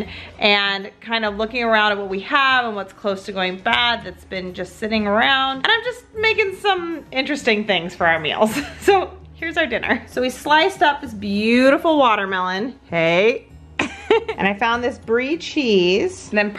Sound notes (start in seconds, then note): 13.8 laughs